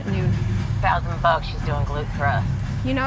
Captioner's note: on phone